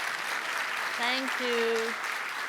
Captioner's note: applause